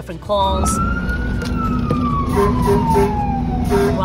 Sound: siren wailing

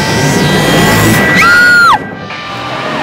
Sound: Simran Screaming

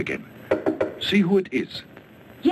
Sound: rapid knocking

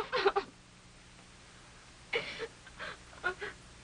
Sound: crying

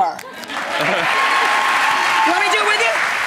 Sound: audience cheering

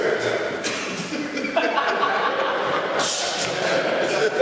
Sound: all laugh

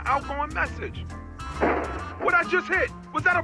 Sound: bang

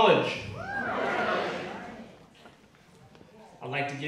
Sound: audience cheering

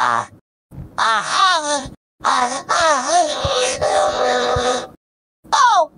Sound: robotified moans

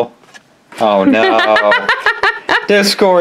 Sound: laughs

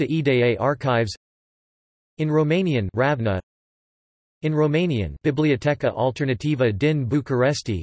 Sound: in Romanian

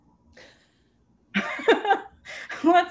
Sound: laughter

